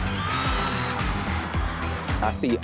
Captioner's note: whistle blows